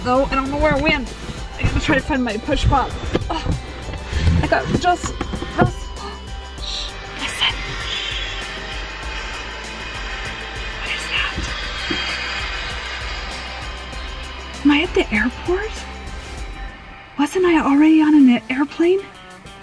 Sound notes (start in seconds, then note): 4.1 gasps; 8.8 gears whining